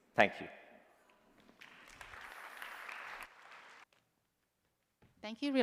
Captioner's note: applause